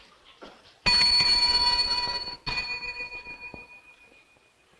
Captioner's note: bell dinging